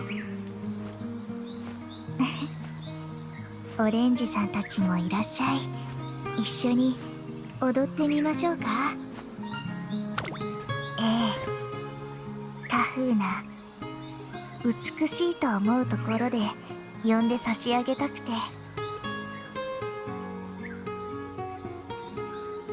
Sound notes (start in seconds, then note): 1.9 giggle